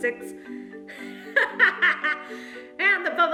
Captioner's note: laughs